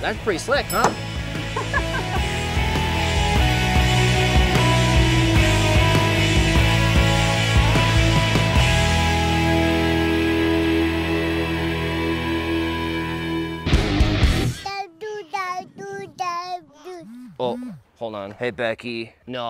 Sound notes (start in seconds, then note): 1.5 laughing; 3.0 mellow rock music; 13.6 rock chord